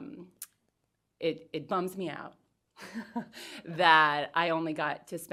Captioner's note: laughs